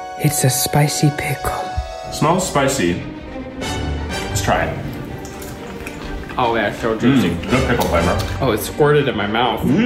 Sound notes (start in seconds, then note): 4.8 chewing